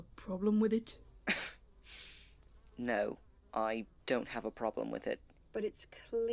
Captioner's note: Remus laughs